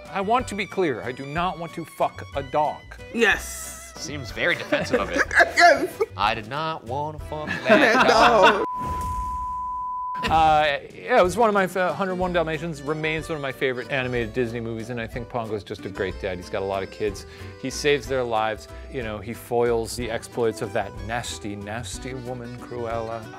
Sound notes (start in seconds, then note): 4.6 laughing; 8.6 high-pitched tone beeping